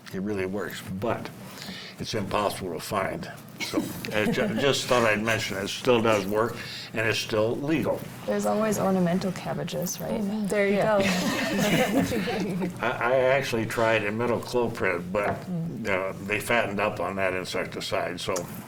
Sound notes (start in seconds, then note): 11.0 panel laughs